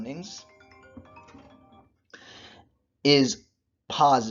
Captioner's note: phone rings